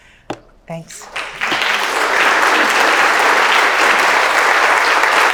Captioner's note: applause